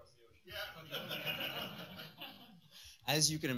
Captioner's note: laughter